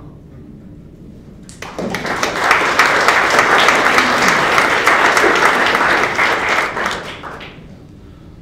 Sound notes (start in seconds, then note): 1.4 applause